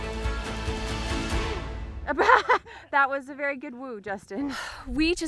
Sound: laughs

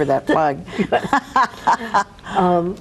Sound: both laugh

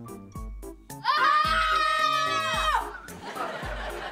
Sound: screaming

